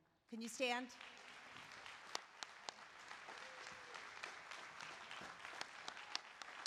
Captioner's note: applause